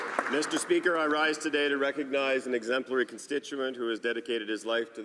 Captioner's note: some Applause